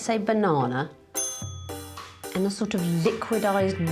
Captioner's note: dinging